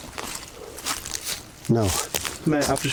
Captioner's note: rustles